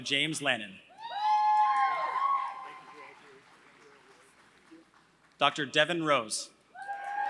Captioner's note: applause; applause